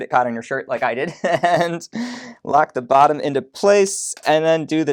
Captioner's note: laughs